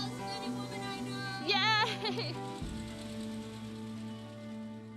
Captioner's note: laughing